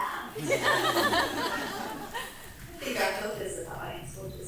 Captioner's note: audience laughing